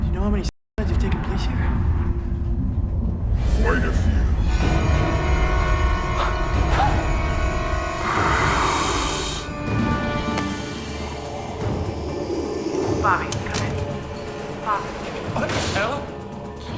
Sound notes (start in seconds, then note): 4.8 deafening sinister music; 8.0 officer growls; 11.6 monster wheezing